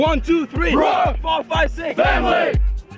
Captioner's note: team shouts